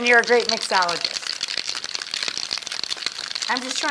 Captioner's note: ice clattering continues